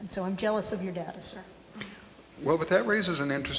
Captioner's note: none